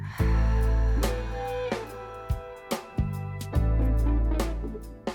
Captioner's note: dramatic music; woman sighs; dramatic music